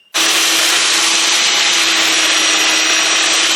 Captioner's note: electric sander grinds